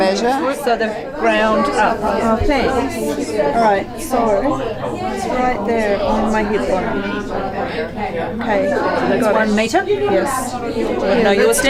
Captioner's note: audience chatter